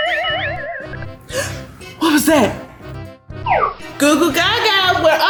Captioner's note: gasps